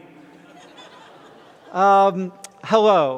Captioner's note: laughter